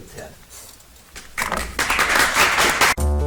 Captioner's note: audience applauds; bright, upbeat music